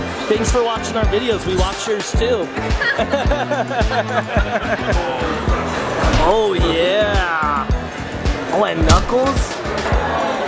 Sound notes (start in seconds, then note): 2.8 laughing; 10.2 upbeat music